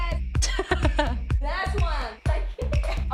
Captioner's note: laughs